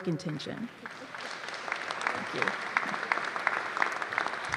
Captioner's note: applause